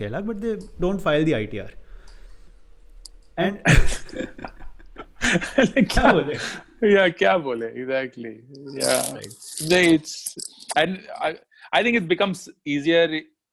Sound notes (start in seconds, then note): 3.4 laughing